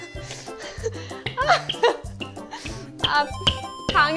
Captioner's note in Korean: 뿅뿅뿅뿅